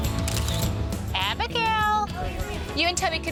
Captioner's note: camera clicking